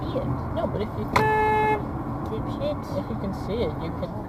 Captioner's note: car honk